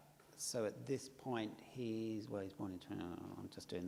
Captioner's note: mumbles